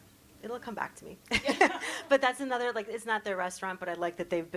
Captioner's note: chuckle